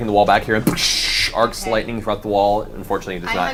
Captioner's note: explosion